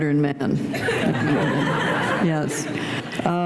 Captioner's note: laughter